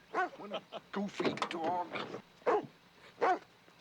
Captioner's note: laughing; barking